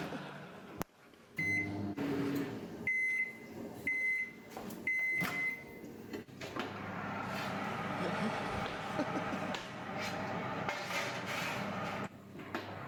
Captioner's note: scraping; beeping